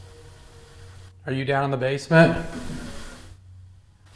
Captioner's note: knocks